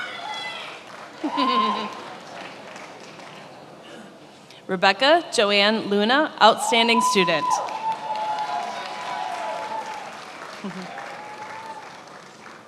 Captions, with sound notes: (attendees applauding and cheering) Rebecca Joan Luna, outstanding student. (attendees applauding)